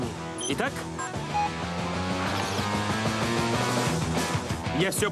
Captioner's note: beeping